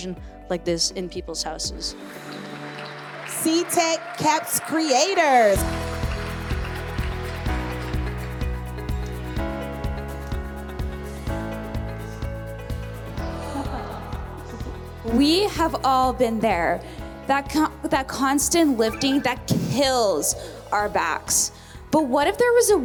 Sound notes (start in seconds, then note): 2.8 audience applauding; 6.7 upbeat music; 14.4 crowd chuckles